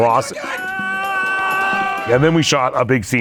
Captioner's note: man screams